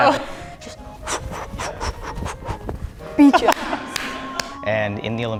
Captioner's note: breathing heavily